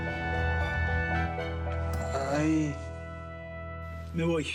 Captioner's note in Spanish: quejidos